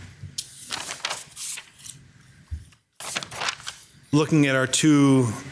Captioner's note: paper rustling